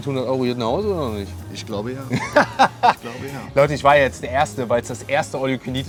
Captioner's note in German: gelächter